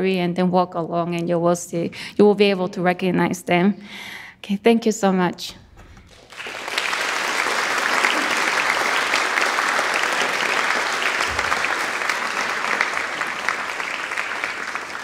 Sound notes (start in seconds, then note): 6.2 audience applauds